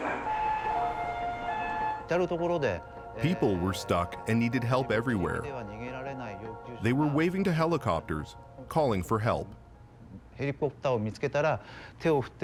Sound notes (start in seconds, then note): 3.2 announcement in Japanese over P.A. system; 3.2 siren wails; 3.3 speaking Japanese